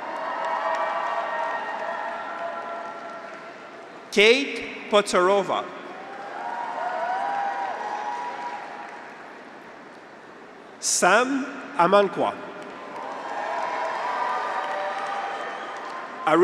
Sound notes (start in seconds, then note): 0.0 graduates cheer; 0.0 audience applauds; 5.9 graduates cheer; 6.0 audience applauds; 12.6 graduates cheer; 12.7 audience applauds